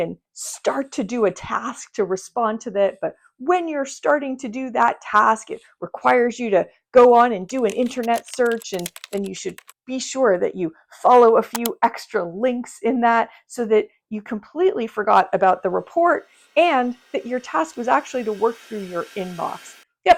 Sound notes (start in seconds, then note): 7.5 keyboard clacks; 11.5 mouse clicks